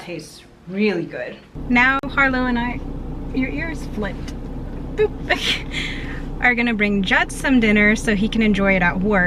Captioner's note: laughs